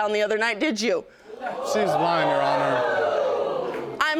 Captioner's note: audience exclaiming